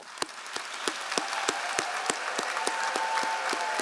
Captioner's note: all applauding